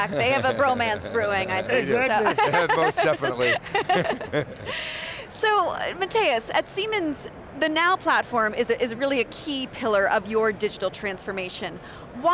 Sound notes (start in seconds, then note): 1.2 all laugh